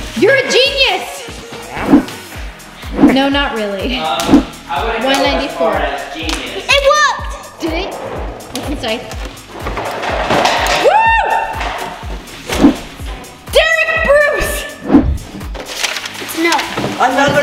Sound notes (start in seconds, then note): 9.6 blocks crashing; 10.7 yells